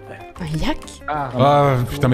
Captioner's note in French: marmonne